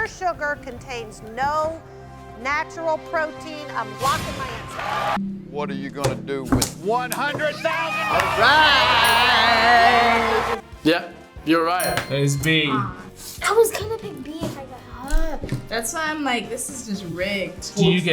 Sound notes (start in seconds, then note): 4.9 crowd cheers